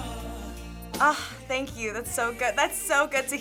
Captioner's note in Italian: sigh sognante